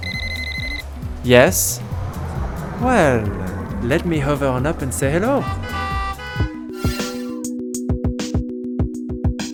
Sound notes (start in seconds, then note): 0.0 phone rings; 4.2 horns honking; 6.7 mellow music